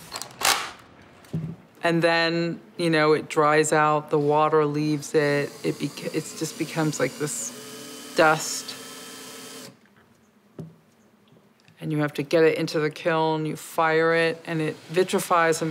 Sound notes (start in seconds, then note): 9.2 drilling